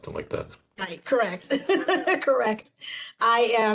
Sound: woman laughing

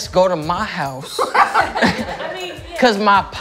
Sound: laughter

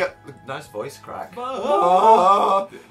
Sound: hellish noises

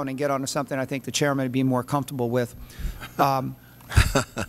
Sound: laughter

